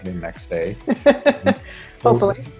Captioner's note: laughing